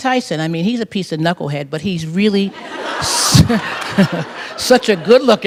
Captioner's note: laughter